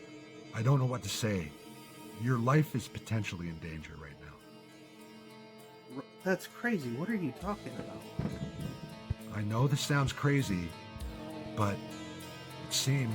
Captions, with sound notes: I don't know what to say. Your life is potentially in danger right now. - That's crazy. What are you talking about? (banging on roof) - I know this sounds crazy,